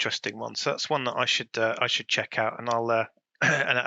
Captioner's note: clears throat